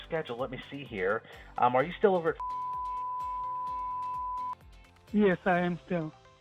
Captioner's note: beeps